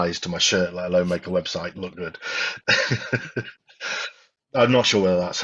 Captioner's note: chuckles